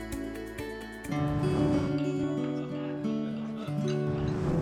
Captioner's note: whoosh